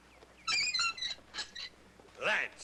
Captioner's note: armor squeaking